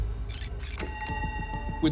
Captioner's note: tape stops